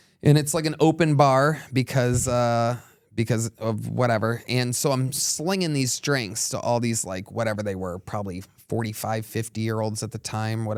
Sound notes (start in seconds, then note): none